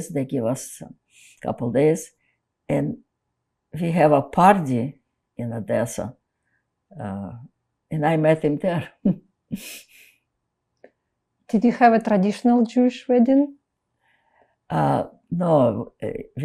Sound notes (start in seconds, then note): 9.0 laughing